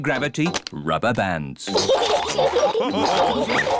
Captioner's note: all laugh